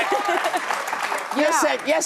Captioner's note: audience applauds